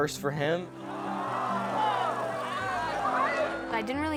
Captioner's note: audience gasps